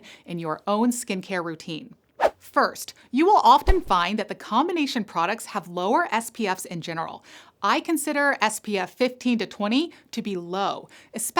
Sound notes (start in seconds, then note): 2.0 air whooshing